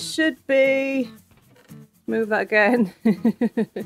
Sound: laughing

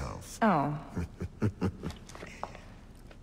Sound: Cesare laughs

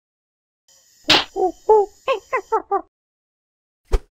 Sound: monkey oohs

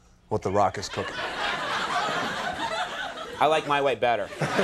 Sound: audience laughing; The Rock and audience laughing

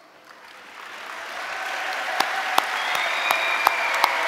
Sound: audience applauding

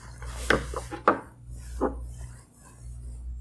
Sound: knocks

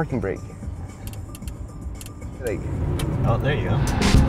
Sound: knob clicking

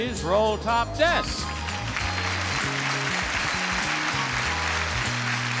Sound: audience applauding

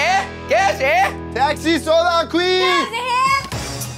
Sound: yelling in foreign language

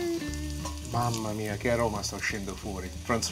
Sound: light instrumental music; speaking in foreign language

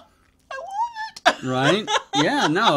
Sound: laughs

